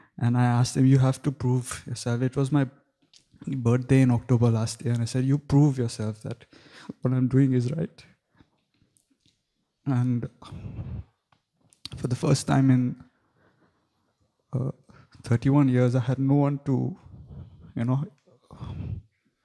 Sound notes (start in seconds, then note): 8.7 voice cracking